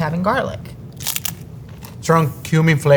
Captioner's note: mouth crunching